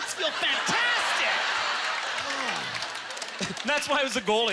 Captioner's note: audience laughter